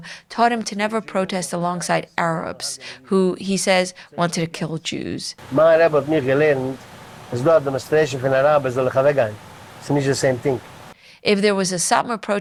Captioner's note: Yiddish